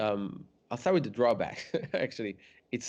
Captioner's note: laughs